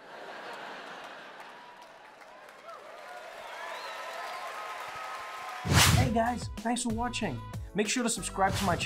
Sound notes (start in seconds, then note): 0.0 audience laughing; 2.9 audience cheering